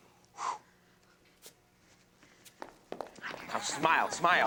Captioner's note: Ben exhales